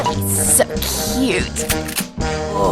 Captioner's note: shotgun cocking